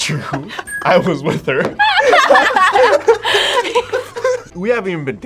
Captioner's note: both laugh